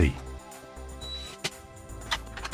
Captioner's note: power drill whirs